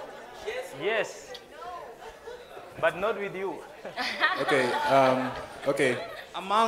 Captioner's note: laughing